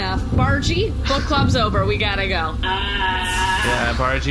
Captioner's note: groaning